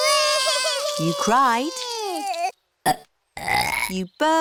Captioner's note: both bawling; both burping